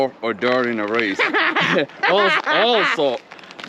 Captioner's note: laughs